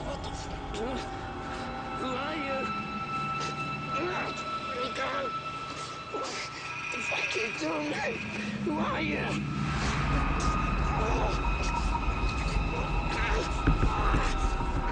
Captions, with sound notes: What the fuck. Who are you? Mm, let me go. What the fuck you doing, mate, who are you? (Collin moans and groans) Ugh.